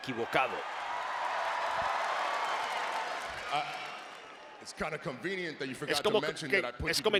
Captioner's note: applause